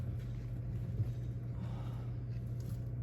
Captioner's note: sigh